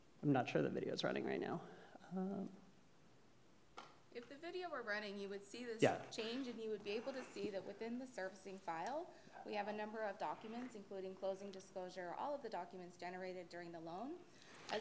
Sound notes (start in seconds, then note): none